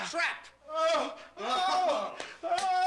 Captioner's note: yelling in pain